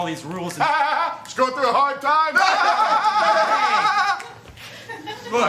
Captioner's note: both laugh obnoxiously